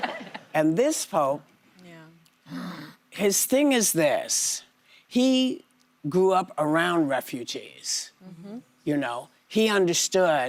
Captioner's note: laughter